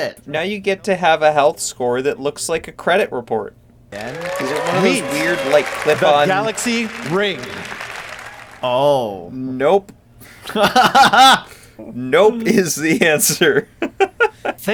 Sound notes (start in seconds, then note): 7.5 audience cheers